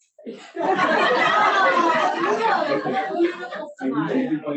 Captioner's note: audience laughs